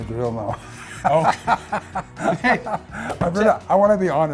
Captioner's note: hearty laughter